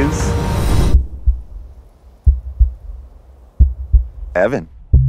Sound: heartbeat

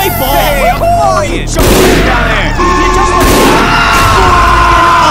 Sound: synchronized gunfire

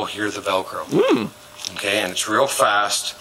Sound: squeal

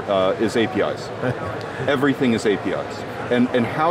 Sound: laughing

